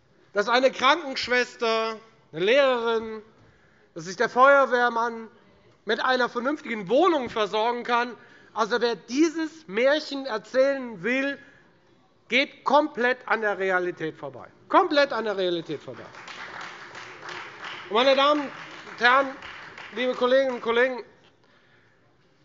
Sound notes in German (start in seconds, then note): 15.6 Beifall Freie Demokraten